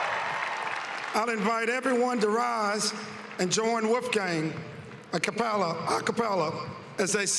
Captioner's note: cheering and applause